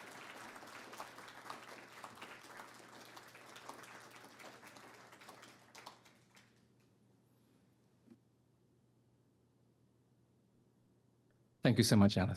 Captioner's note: audience applauding